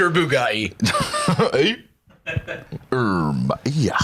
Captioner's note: laughs